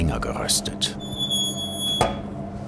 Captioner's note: squeaking